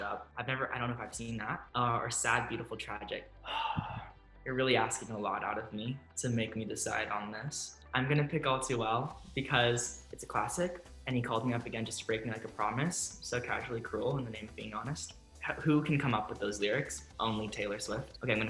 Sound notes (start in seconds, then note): 3.4 sighs